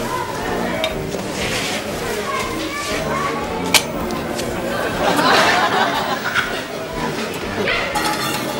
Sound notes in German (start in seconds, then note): 3.8 Klicken